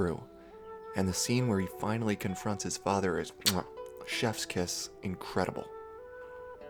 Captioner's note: mwah